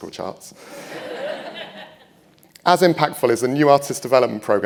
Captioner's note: people laughing